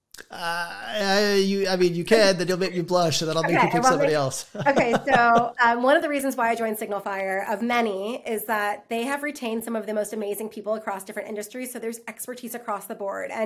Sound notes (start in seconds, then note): 3.4 laughs